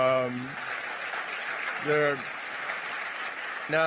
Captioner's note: applause